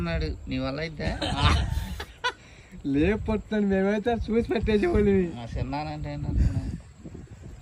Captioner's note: laughs